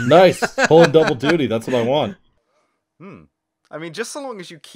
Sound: laughter

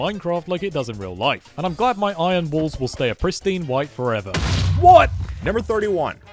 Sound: explosion

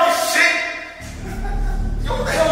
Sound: laughing

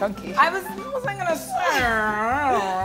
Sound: murmurs

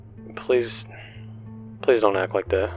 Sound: deep breath

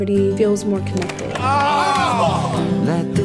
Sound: cheering

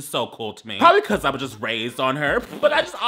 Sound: laughing

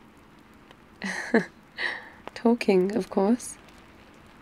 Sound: laughs

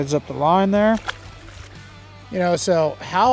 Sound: water splashes

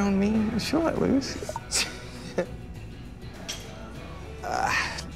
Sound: cell phone chiming

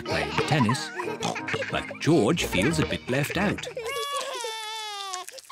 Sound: laughs; cries; screams

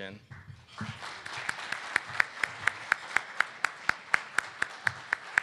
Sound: audience clapping

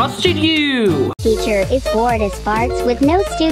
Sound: robotic Voice

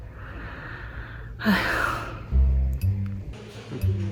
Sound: sighs deeply

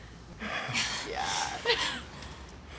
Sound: laughs

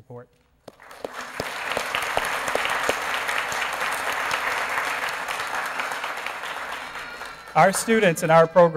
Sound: applause

